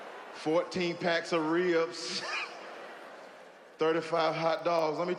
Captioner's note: chuckles